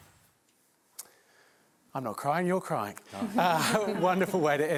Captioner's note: laughter